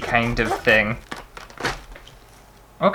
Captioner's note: lettuce Being Ripped Apart